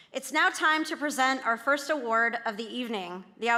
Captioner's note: none